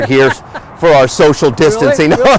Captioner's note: laughs